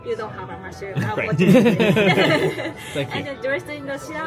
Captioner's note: all laugh